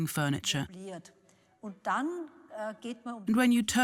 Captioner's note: speaks in foreign language